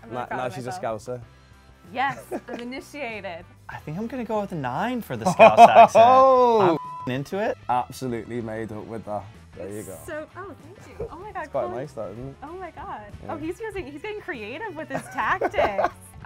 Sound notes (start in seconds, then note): 2.0 laughs; 5.2 scouser laughs; 6.6 beep; 14.9 scouser laughs